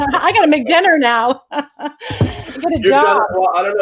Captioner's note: laughs